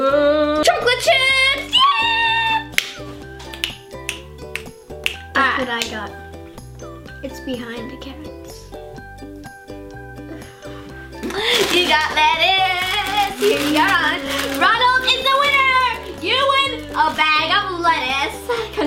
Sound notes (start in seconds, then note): 3.4 claps; 3.4 snaps